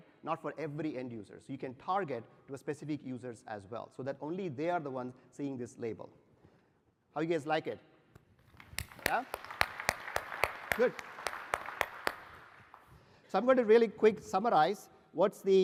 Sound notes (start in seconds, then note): 8.4 applause